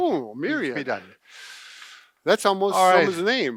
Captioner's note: sighing